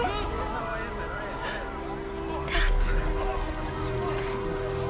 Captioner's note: gasps